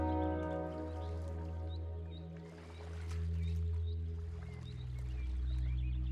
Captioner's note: reflective music; birds chirping; gentle rustling of water